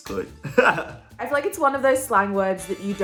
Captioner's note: laughing